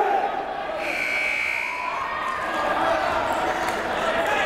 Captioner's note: timer buzzes